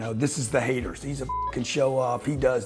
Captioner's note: beep